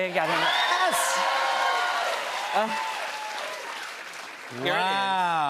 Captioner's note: cheers and applause